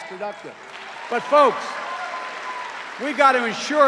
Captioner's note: cheers and applause